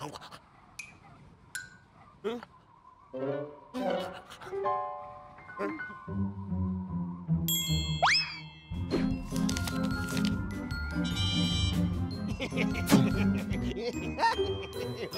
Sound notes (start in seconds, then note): 12.3 snickering